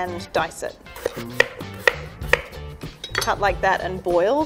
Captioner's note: knife tapping against wooden board